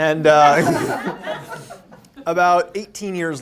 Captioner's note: laughter